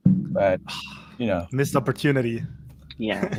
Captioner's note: sighs